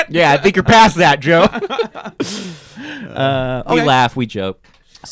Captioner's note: laughing